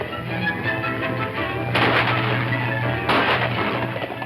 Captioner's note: guns firing